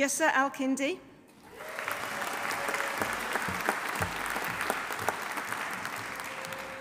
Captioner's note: audience applauding; audience cheering